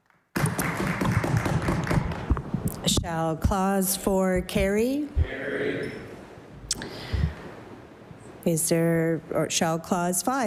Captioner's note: applause